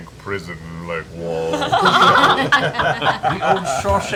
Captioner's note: laughter